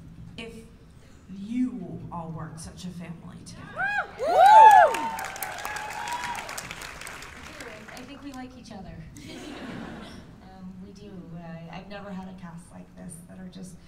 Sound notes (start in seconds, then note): 3.7 cheers and applause; 9.2 laughter